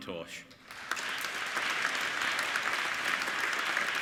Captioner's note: applauding